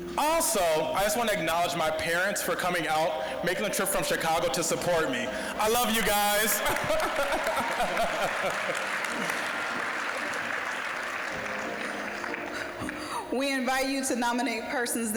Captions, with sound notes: Also, I just want to acknowledge my parents for coming out, making the trip from Chicago to support me. I love you guys! (laughing) (applause) >> We invite you to nominate persons